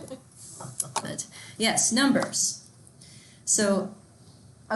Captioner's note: students chuckling